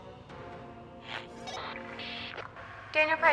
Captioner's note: radio static and bleeps